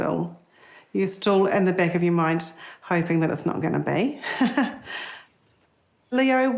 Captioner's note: laughs